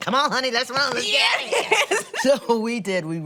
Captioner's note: laughs